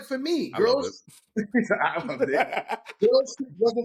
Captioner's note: laughing